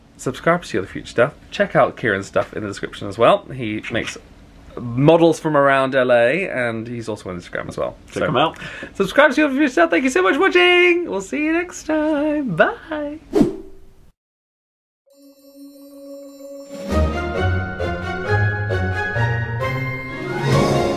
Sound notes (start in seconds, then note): 13.3 screen wipe whooshes; 16.9 joyful music swells; 20.7 joyful music